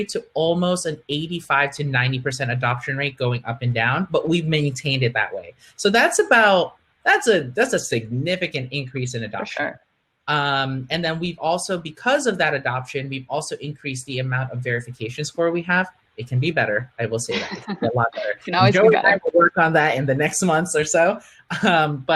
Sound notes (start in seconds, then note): 17.3 laughing